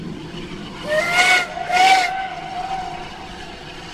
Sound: two toots then blasting rotary exhaust

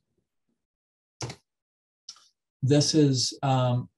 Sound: keyboard clicks

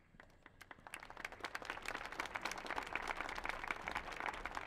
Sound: audience applauding

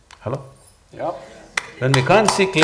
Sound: applause

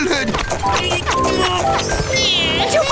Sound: crying

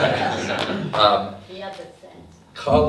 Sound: audience laughs

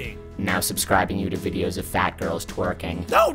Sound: digital voice

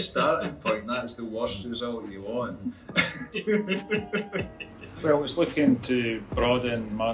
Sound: laughing

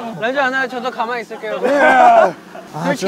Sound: threatening

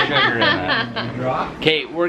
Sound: laughs

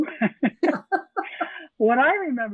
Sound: all laughing

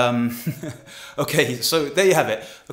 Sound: laughing

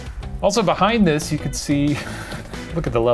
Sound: laughs

